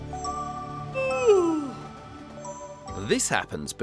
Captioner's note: yawns